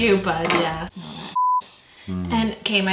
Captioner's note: sniffing noise